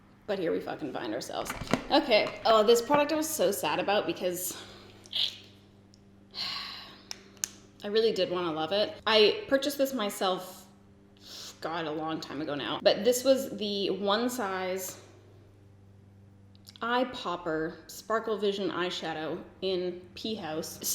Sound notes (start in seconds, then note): 5.0 sucks teeth; 6.3 sighs